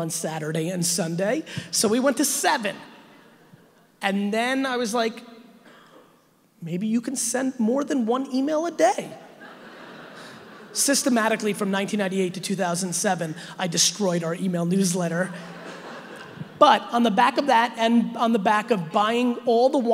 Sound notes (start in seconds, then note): 9.3 audience laughing; 15.3 audience laughing